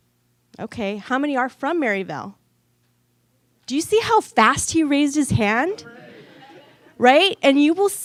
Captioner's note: audience laughter